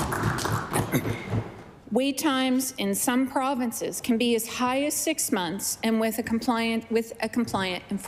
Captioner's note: applause